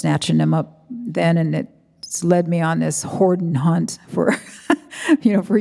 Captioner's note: chuckles